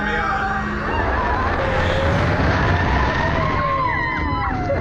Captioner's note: riders scream and cheer